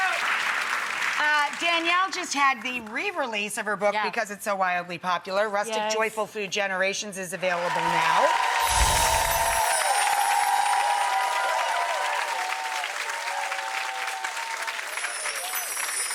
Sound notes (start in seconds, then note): 7.4 audience cheers; 8.6 bells chime